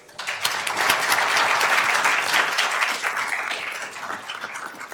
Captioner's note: attendees applauding